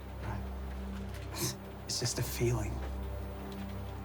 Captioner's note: sighs